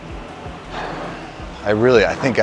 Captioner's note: sighs